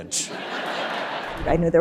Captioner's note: audience laughing